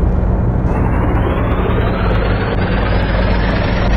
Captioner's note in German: Ansteigendes Surren